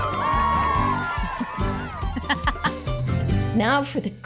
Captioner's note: laughing